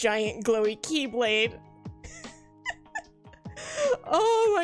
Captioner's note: laughs